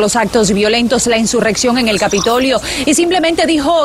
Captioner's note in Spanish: habla en ingés